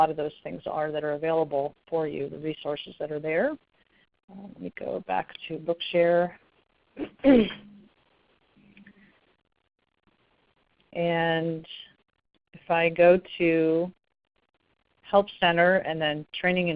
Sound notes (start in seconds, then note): 7.1 clears�throat